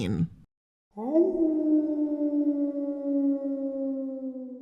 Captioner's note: howling